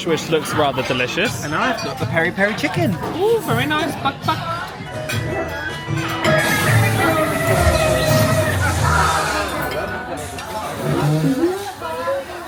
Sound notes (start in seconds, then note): 6.5 crowd chattering; 7.5 electricity crackling